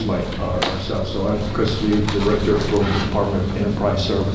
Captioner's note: rustling drowns out speaker